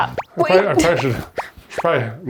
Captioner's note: gasps